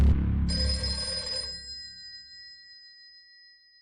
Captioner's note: telephone begins to ring